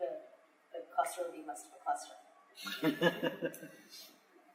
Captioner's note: laughter